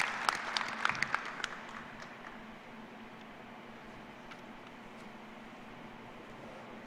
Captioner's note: applause